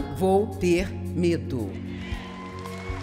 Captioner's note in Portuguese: plateia aplaudindo